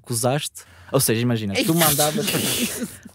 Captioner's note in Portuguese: risos